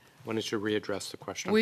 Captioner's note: speaking in French